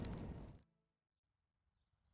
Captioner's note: flames crackle